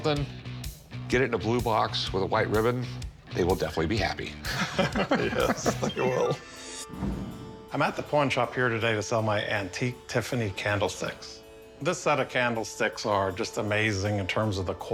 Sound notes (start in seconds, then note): 4.4 chuckling